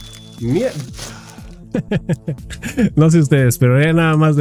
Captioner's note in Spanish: risas